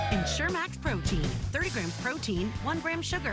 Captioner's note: cheering